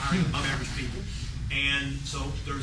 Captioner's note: laughter